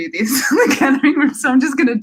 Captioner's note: laughs